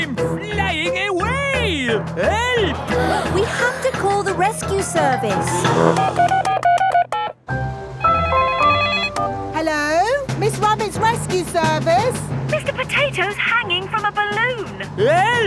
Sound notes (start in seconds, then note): 5.4 beeping; 8.2 phone ringing